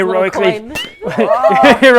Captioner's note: ping